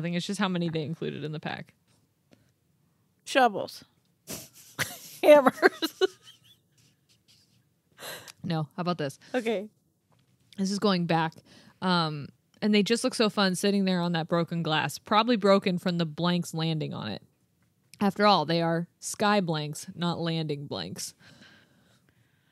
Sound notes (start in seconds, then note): 5.5 chuckling